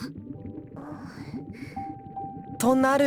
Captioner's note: breath